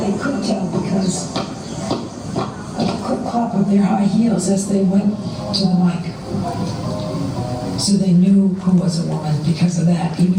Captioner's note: sound of clip clop